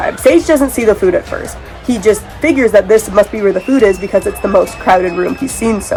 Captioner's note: sounds of chaos & screaming